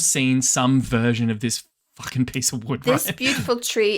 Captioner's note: chuckles